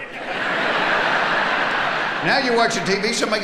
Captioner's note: audience laughing